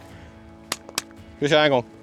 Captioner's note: slap